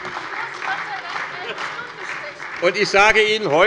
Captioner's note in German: Heiterkeit und Beifall bei der SPD